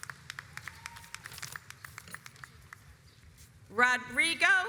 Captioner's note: audience applauds